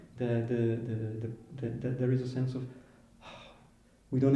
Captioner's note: sighs